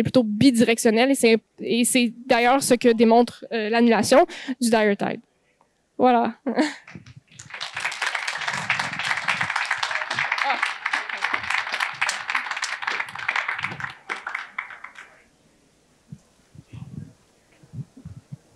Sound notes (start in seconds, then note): 6.8 applause